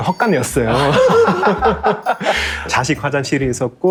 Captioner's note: laughter